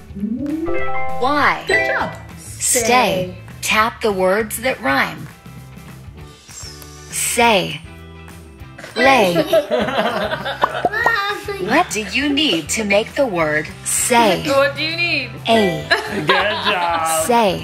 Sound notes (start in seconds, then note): 0.9 phone beeping; 8.9 all laughing; 15.8 laughing